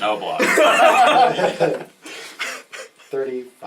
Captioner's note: all laugh